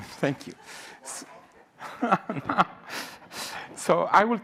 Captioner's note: laughing